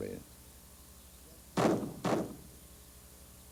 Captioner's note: gunshots